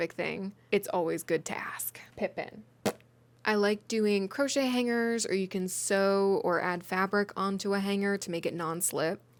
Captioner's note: mouth fart